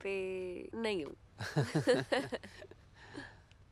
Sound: both laughing

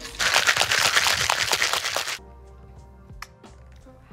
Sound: drink shaking

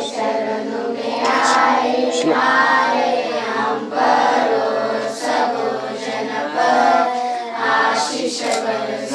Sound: kids chant prayers

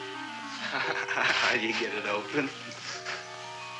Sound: chuckling

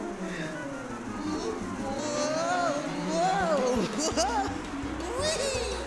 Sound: chuckles

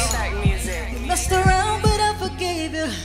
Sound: recorded Voice

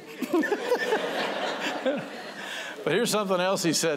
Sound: laughter

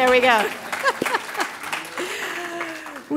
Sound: applause

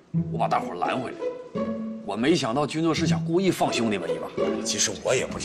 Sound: none

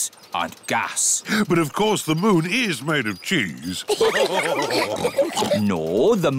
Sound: all laugh

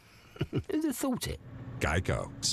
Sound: chuckles

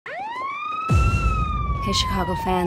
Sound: siren wails

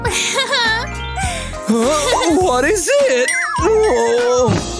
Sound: making happy sounds

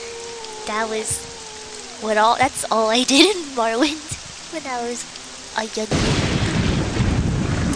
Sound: lightning

